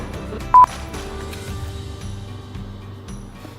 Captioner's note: beep